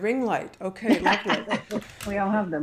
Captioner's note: laughter